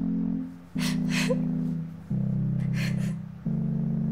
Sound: Dolly sobbing

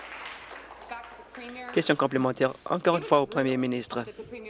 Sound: applause

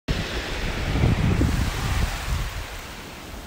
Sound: wind blowing

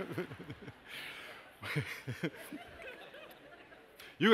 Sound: laughter

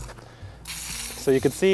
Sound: device spraying

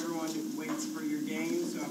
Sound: speaker off mic

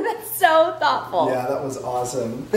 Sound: laughs

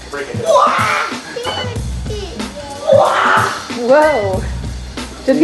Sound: energetic shouting

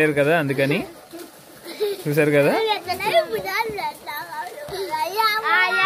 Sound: children playing

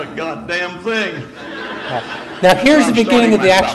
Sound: audience laughs

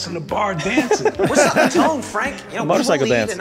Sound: everyone laughs

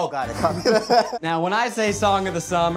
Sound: both laughing

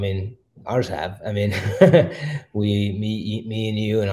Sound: chuckles

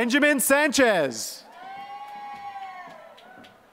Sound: applause

